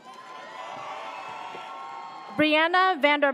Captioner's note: audience cheers